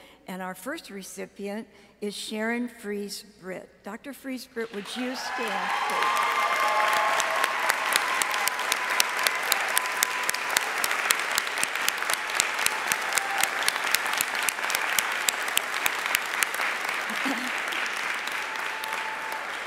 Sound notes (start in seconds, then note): 6.9 audience cheering and applauding